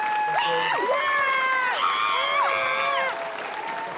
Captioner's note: screams